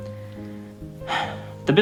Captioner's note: sigh of disapproval